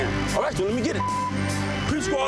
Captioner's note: beep